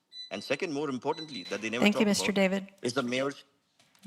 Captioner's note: buzzer